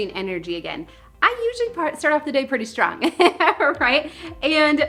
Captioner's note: laughs